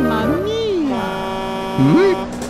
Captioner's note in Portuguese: Buzina de ônibus